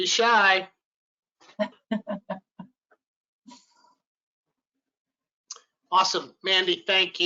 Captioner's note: laughs